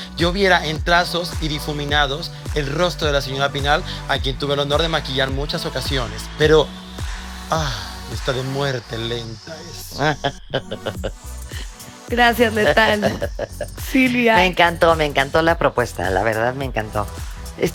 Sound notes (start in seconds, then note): 7.8 horny sigh